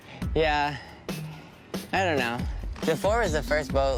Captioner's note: none